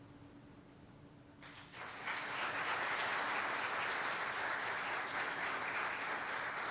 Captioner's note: applause